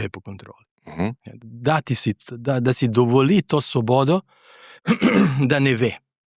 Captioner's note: exhales; clears throat